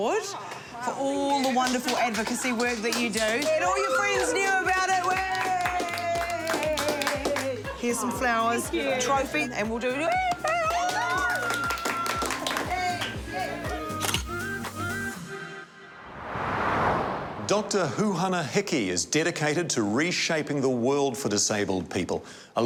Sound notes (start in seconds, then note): 10.1 cheers; 10.4 all cheer; 13.0 inspiring music